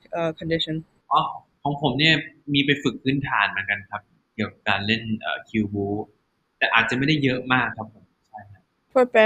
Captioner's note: answering in Thai